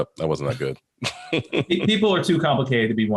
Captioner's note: laughs